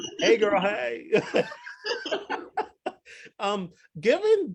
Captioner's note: both laugh